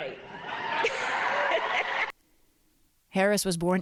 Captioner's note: cheering and applause